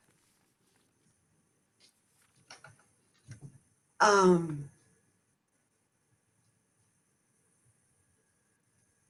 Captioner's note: pause